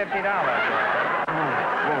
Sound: audience laughter

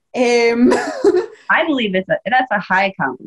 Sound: laughs

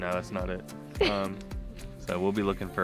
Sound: laughs

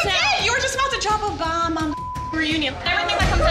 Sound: beep

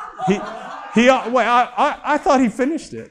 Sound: laughter

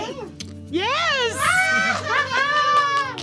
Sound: cheering; clapping

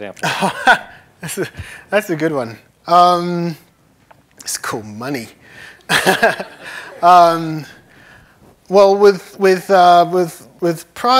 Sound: laughs

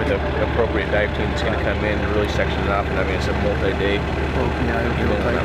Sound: indistinct conversation

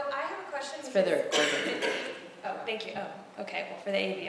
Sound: laugh

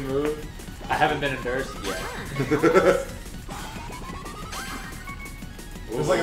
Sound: laugh

